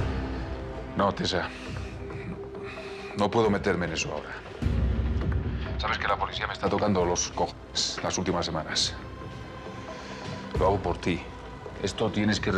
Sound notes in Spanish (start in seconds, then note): none